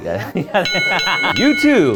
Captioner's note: accordion music; laughs